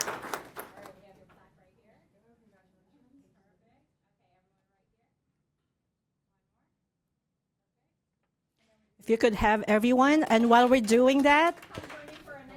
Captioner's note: applause